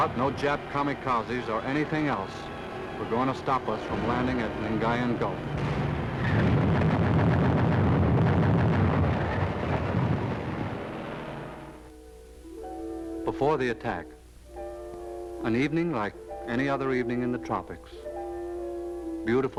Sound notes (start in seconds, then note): 5.4 guns firing